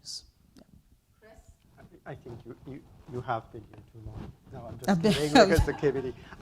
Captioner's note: laughs